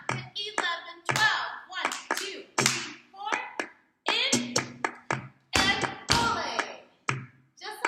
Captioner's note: clap